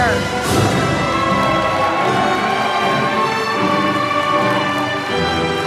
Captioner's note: applause